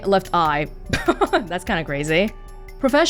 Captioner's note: chuckles